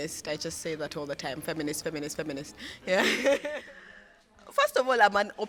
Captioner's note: laughs